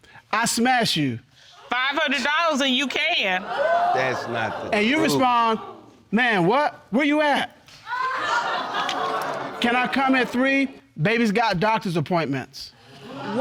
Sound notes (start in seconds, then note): 3.4 audience exclaims; 7.9 audience laughs